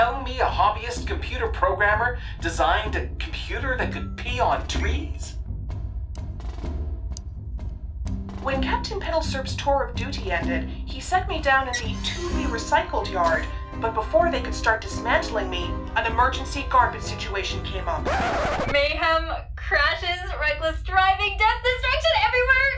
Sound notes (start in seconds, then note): 17.9 record scratch